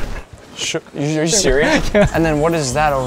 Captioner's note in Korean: 웃음